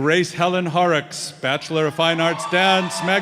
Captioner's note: cheers and applause